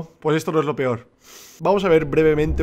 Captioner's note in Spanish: Snif